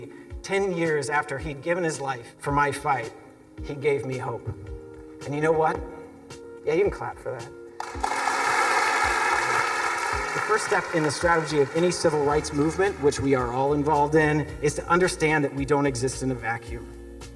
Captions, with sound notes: Ten years after he'd given his life for my fight, he gave me hope. And you know what? Yeah, you can clap for that. [Students clapping]. The first step in the strategy of any civil rights movement, which we are all involved in, is to understand that we don't exist in the vacuum...